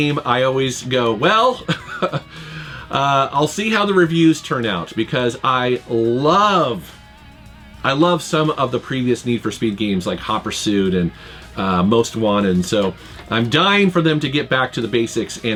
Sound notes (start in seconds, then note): 1.6 laughs